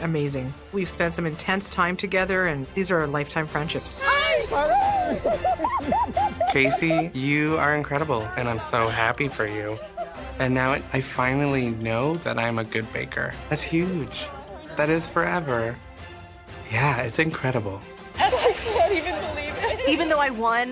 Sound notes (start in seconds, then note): 3.3 laugh